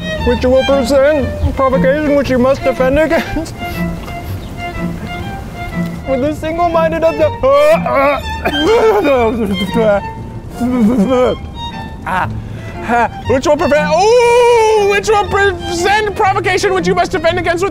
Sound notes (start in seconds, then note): 8.7 yelling; 9.7 spitting